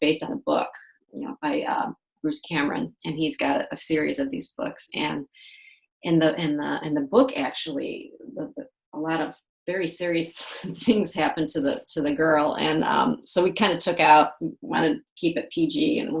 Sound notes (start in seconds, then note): none